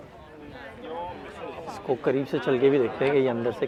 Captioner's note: people speaking